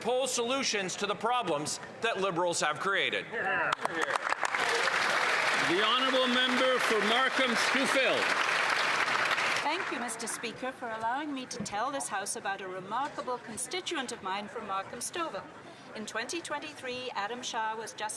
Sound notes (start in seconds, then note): 10.2 some Applause